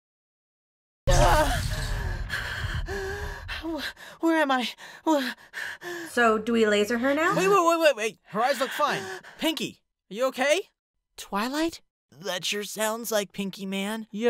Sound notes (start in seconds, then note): 1.9 pinkie catches her breath